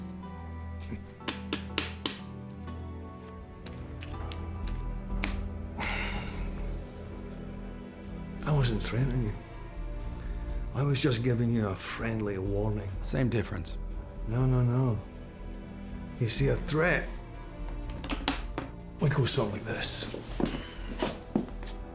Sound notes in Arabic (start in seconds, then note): 1.9 أصوات نقر وخلط; 5.7 تنهدات; 8.1 لكنة اسكتلندية; 14.1 لهجة اسكتلندية; 17.5 نقر المسدس